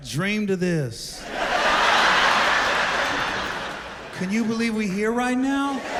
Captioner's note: laughter